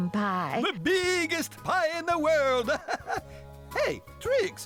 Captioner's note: laughing